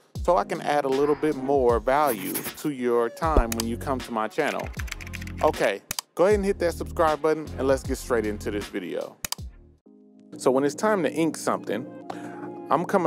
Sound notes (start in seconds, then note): 4.4 keyboard clicking